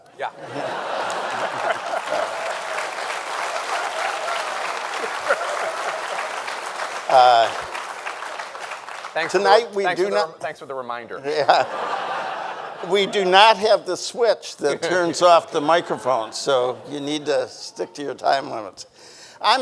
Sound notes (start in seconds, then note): 0.8 everyone laughing; 2.3 audience applauding; 2.3 audience cheering; 5.2 audience applauding; 5.2 people laughing; 11.2 audience laughing